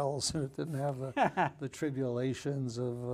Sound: laughing

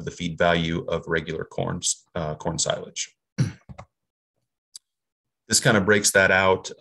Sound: clears throat

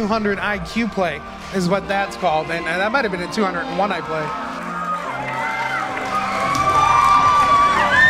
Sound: audience cheers

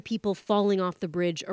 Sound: speaking alternate language

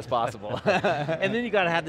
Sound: laughs

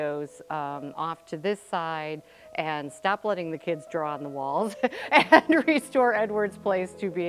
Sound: laughing

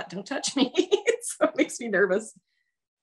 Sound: laughs

